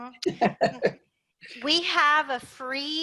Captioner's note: laugh